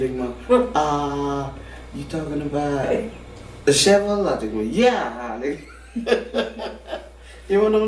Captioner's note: laughing